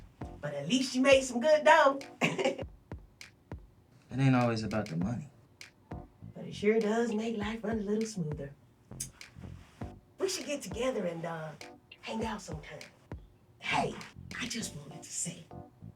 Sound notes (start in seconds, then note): 2.2 devious chuckle